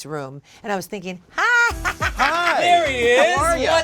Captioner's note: laughs